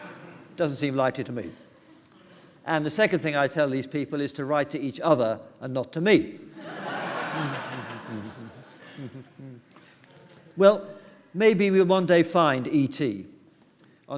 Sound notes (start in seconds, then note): 6.6 laughter